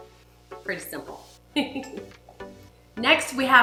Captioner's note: chuckles